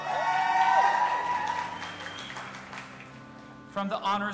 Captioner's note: audience applauding and cheering